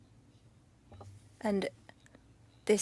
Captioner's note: speaking French